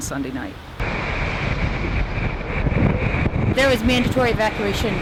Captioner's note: sound of wind and waves